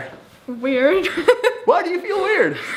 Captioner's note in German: lacht